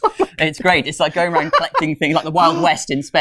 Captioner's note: laughs